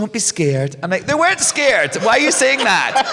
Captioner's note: laughter